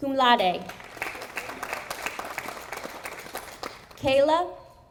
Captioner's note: audience applauding